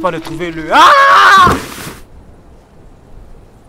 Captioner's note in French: chute lourde